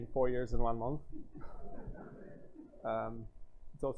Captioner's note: laughter